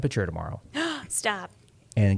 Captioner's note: gasps